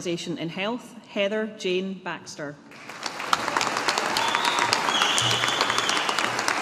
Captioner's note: audience applauding